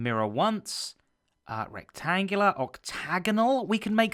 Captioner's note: none